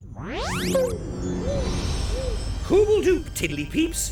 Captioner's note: soft zap